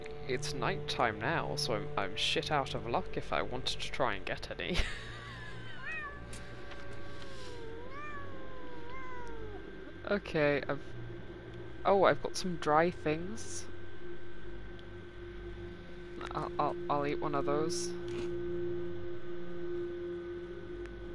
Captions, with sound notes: it's night time now so I'm shit out of luck if I wanted to try and get any [laughs] okay I've oh I've got some dry things I'll I'll eat one of those